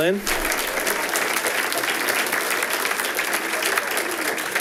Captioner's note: audience applauding